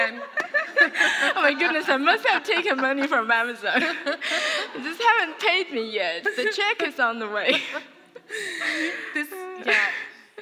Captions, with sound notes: (laughter) - Oh my goodness. I must have taken money from Amazon. Just haven't paid me yet, the cheque is on the way. - This, yeah.